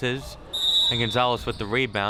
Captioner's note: whistle chirping